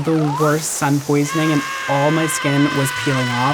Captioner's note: screaming